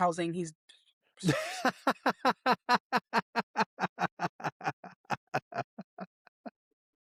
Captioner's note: laughing